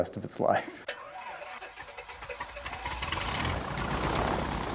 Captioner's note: propeller whirls